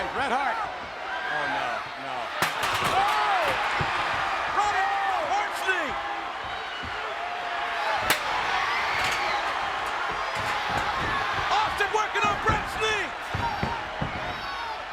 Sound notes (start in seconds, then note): 8.0 chair thuds; 8.1 audience cheers